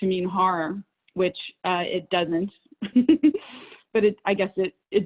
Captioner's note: laughs